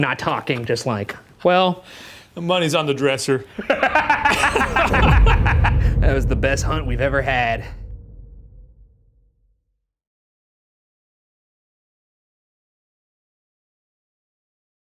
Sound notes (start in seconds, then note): 3.5 both laughing; 3.5 laughs